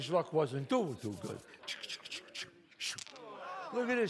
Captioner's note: sound of dice rolls